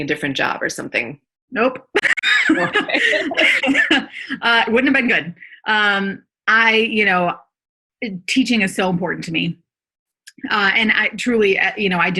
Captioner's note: laughter